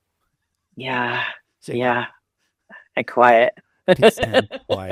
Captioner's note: laughs